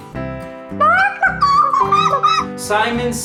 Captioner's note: bawk bawk